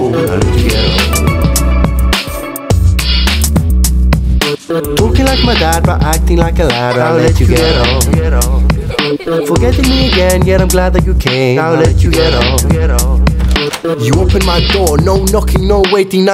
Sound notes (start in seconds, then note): 13.3 door opening